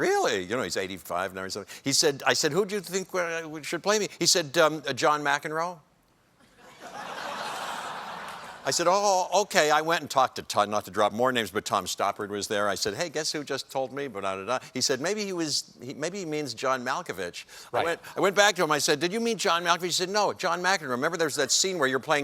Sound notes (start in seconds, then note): 6.4 laughter